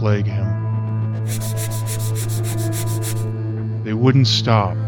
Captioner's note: scratch scratch scratch scratch